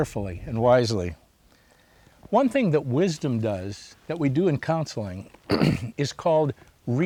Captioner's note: clears throat